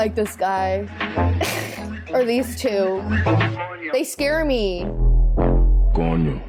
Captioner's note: laughs; snickers